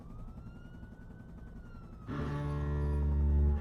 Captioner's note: helicopter whirls; sirens blaring; tense music